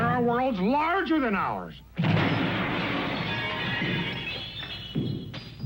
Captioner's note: metal clanking aggressively